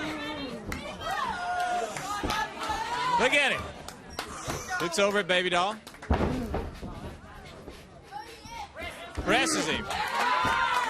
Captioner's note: crowd chatter